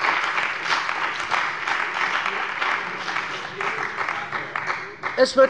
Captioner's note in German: Beifall bei der CDU und dem BÜNDNIS 90/DIE GRÜNEN